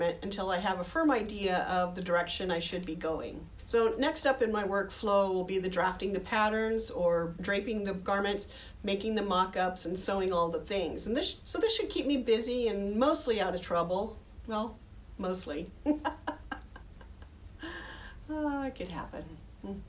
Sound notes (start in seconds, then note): 15.8 laughing